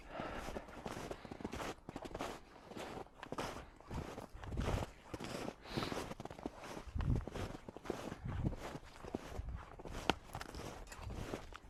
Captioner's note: the sound of walking on frozen snow